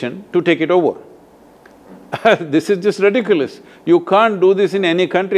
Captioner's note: Sadhguru laughs